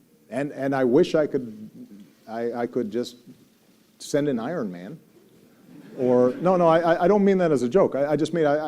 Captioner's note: laughter